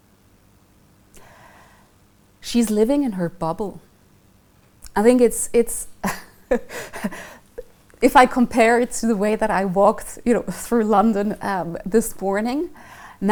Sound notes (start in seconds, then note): 6.0 laughing